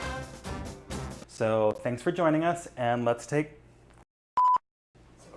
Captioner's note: beep